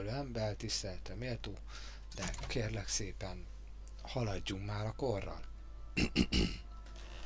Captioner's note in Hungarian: köhögés